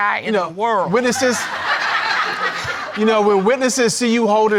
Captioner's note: audience laughing